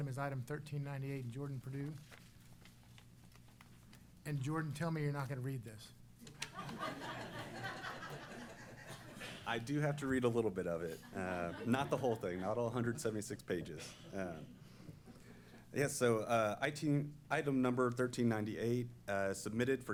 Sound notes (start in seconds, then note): 6.4 laughing